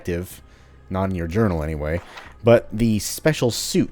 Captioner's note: journal closes